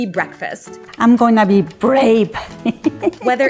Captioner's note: chuckles